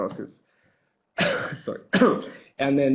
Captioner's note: coughs